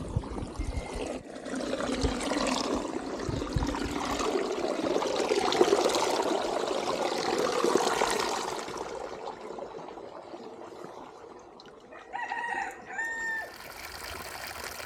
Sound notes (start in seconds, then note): 11.9 rooster crowing